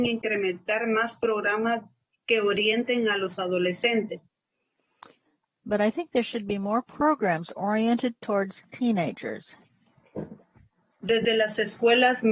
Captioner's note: speaking spanish